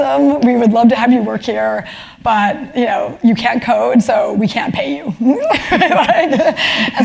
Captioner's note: laugh